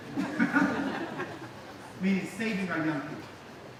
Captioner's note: laughing